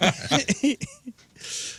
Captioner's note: laughing